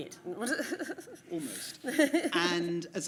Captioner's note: panellists laugh